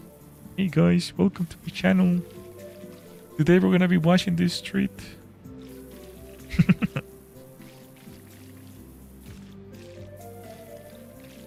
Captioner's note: laughter